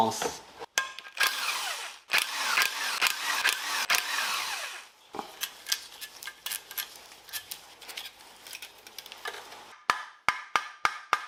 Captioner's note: working sound